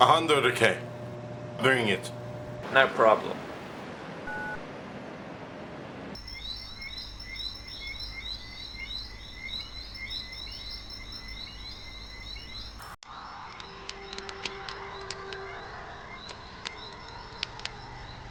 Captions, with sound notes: - A hundred, okay? Bring it. - No problem. (Insects chirping) (Gentle flute music) (Fire crackling)